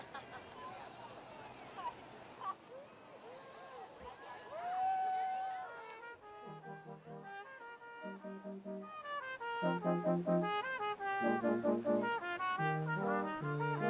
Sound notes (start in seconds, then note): 0.0 woman laughs; 4.4 student cheering; 6.1 orchestral music